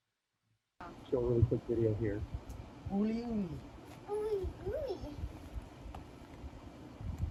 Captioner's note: man and child speaking in native language